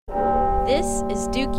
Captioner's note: bells ringing